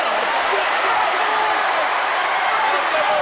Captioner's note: crowd shout